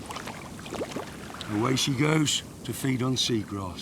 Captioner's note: water splashes